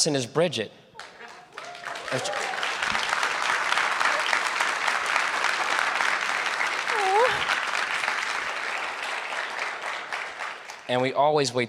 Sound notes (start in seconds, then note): 1.0 applause